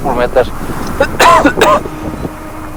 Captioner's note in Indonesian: Batuk